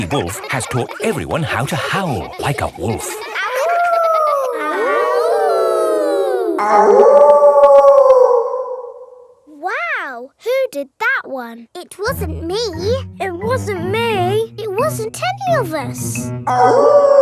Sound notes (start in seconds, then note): 3.5 howling; 5.2 kids howling; 7.2 wolf howling loudly; 16.5 wolf howling loudly